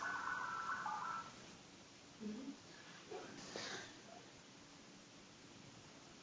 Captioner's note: dialing sound coming from back room